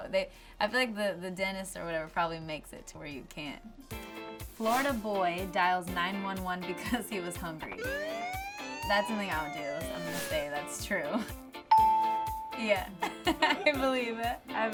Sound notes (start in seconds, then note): 7.8 sirens; 11.7 bell dings